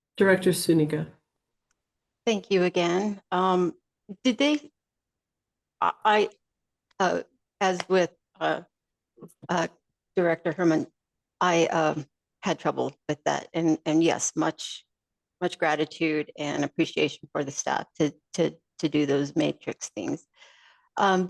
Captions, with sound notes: Director Suniga. Thank you again. Um, did they... (stammers) As with Director Herman, I, uh, had trouble with that. And yes, much gratitude and appreciation for the staff to do those matrix things.